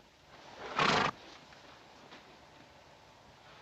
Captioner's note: horse sputters